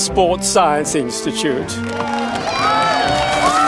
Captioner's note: applause